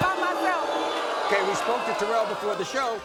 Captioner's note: audience boos